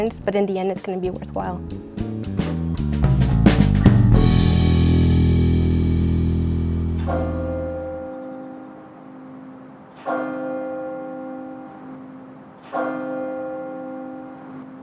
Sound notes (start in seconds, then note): 1.9 upbeat music; 6.8 bell tower bell